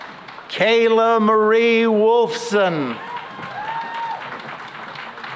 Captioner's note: cheering and applause